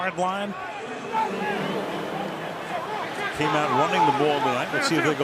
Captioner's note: pa announcement